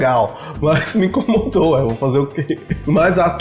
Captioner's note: laughs